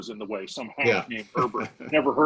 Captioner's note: laughing